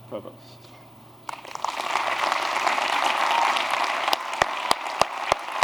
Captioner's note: applause